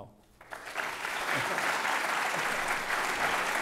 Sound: applause

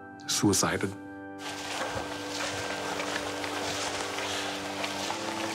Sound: footsteps crunching

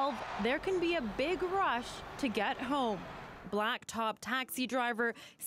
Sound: crowd Noise

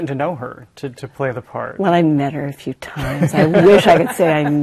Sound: others laugh

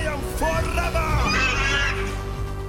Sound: screeching

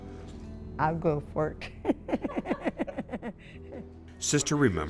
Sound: laughs

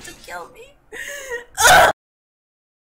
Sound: yell

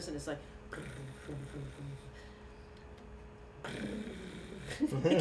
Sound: imitating purring; chuckling

